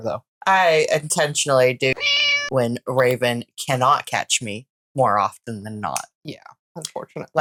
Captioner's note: meow